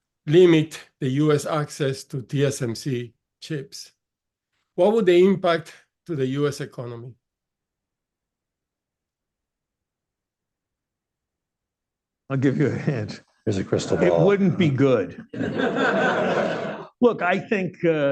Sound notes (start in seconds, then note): 15.2 laughter